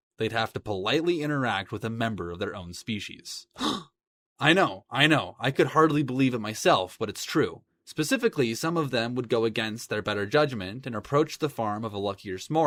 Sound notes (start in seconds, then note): 3.6 gasp